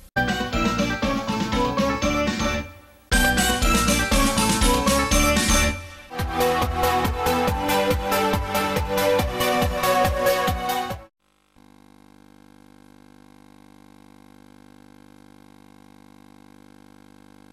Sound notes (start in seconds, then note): 6.1 epic electronica music plays; 11.3 VHS static